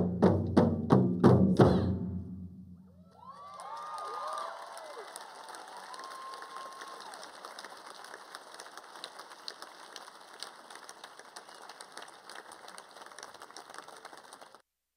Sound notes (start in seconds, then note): 3.0 applause